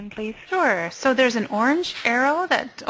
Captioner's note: voiceover